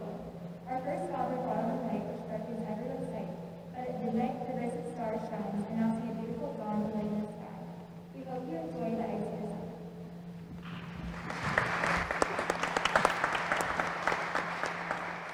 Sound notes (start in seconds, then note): 10.6 applause